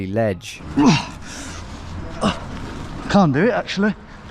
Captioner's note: groaning